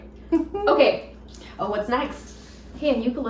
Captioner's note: laughs